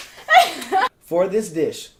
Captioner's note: laughs